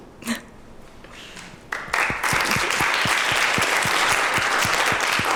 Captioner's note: applause